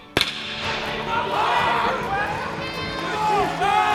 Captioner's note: crowd cheering